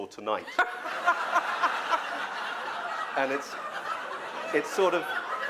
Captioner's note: laughter